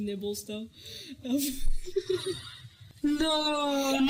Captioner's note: laughs at her own joke